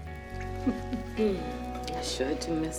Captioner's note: Ernestine chuckles